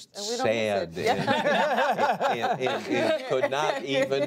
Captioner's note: laughter